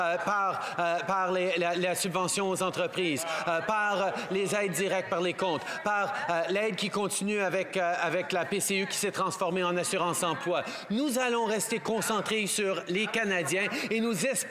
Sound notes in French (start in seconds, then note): 1.3 voix de l'interprète